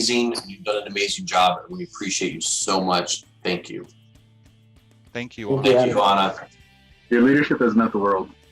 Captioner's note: speaking together